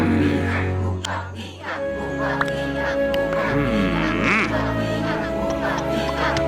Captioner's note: crowd chanting